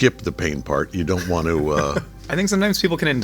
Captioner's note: chuckling